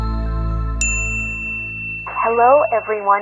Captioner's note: bell chimes